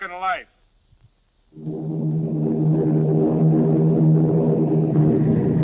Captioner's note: plane engines roaring